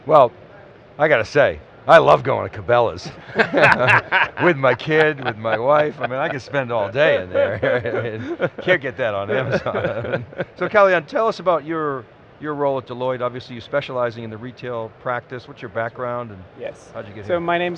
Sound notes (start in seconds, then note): 3.7 laughter; 8.0 laughter